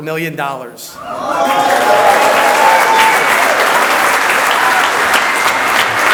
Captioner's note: audience cheers and applauds